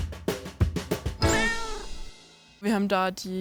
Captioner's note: cat meows